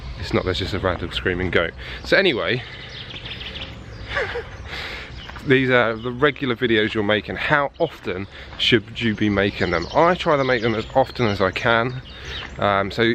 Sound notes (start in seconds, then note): 3.8 laughing